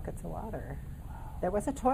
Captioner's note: whispering